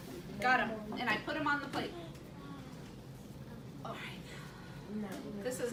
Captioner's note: sigh